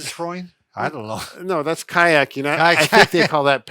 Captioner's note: laughs